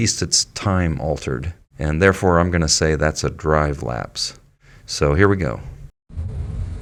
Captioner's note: sound of road and car noise in slow motion